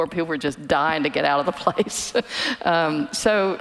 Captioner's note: laughing